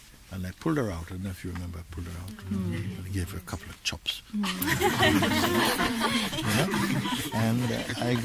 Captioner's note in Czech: smích